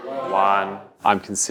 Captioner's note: students chatting